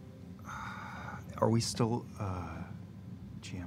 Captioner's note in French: soupir